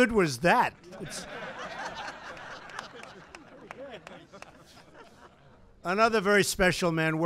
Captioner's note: laughter